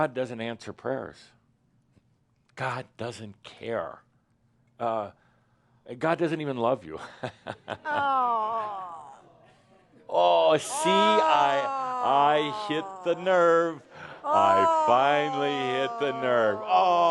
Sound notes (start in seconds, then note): 7.0 Adamus chuckles; 10.4 audience groans